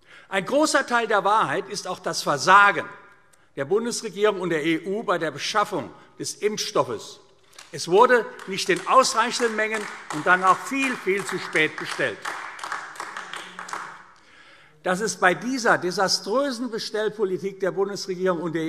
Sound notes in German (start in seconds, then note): 7.4 Beifall AfD